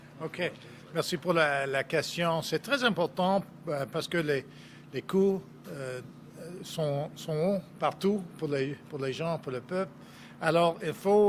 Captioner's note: speaking French